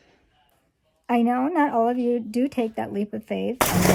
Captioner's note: water splash sound